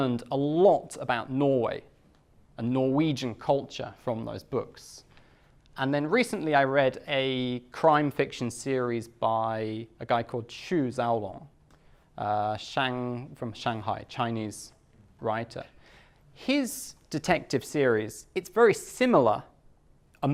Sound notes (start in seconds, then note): none